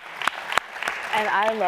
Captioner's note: applause